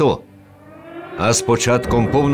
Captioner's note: air raid alert. Bombings